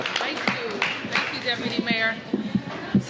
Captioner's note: applause